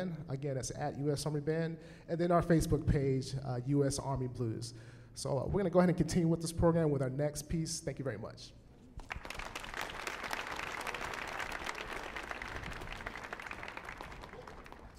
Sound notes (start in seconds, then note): 9.0 audience applauding